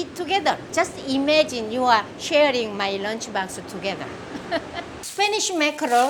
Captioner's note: laughs